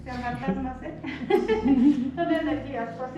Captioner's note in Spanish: risas